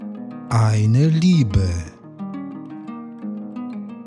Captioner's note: german